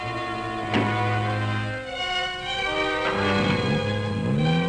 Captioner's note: grunting